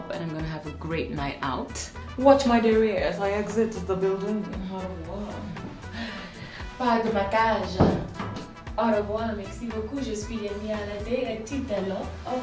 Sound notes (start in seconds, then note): 5.1 speaks in foreign language